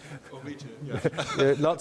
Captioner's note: giggling